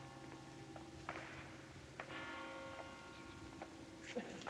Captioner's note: bell Tolling